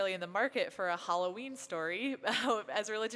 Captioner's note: laughs